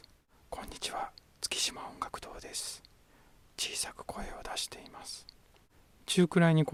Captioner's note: no auto level. The input level is fixed at 5. Whispering voice